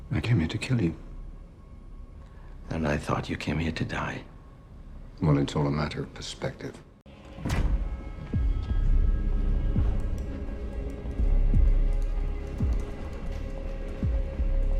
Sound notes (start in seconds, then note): 7.4 thud; 9.8 faint clicking